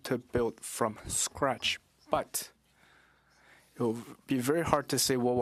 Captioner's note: speaking French